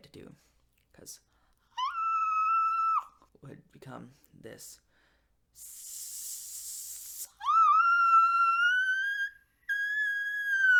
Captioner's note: demonstrates whistle; demonstrates better whistle; laughs